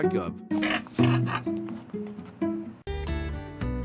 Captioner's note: grunt, grunt